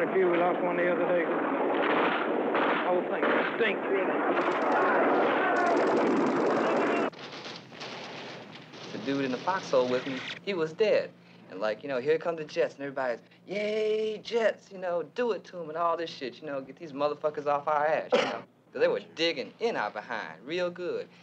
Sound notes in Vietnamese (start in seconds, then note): 4.4 Tiếng la hét